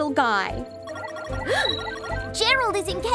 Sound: gasps in delight

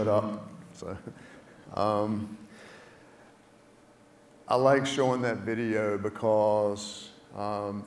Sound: laugh

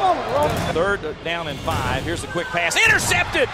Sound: voiceover

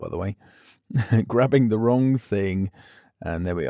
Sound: chuckles

